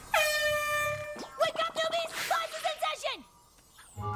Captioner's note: air horn blares